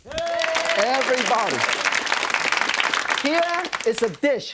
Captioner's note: audience clapping and cheering